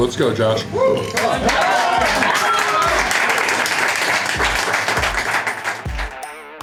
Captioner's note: crowd cheering and applause